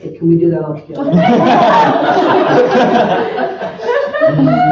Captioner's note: laughter